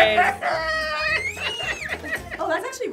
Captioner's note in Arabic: يصرخ